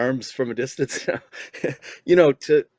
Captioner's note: laughing